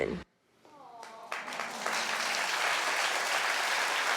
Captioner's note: audience clapping